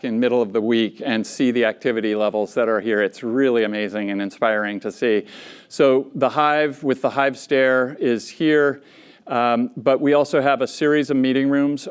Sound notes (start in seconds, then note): none